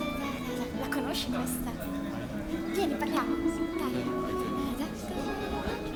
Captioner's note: speaks and counts music in Italian